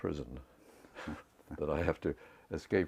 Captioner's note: laugh